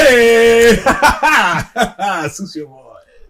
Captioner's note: chuckles